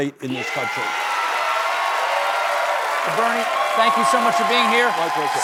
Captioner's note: cheers and applause